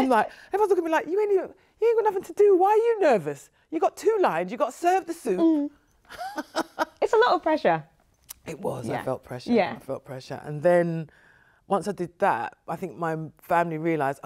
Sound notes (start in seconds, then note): 6.1 chuckles